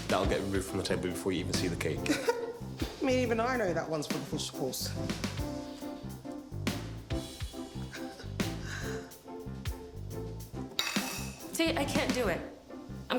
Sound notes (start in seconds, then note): 2.0 laughs; 8.0 Regina laughing; 10.7 utensil clanking